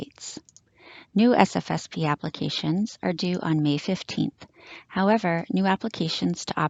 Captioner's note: click